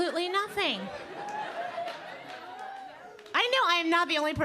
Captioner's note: audience laughing